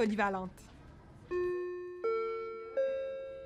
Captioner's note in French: douce sonnerie